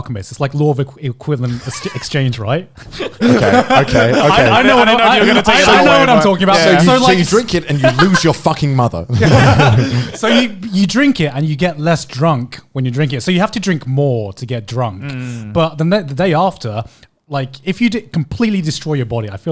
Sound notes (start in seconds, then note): 2.8 laughing; 9.1 laughing